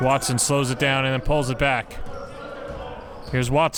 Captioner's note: none